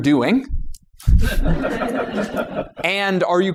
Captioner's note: laughter